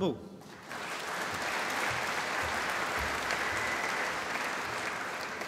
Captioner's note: applause